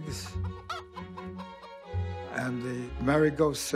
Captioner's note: chicken clucking